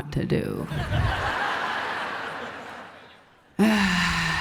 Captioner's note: laughs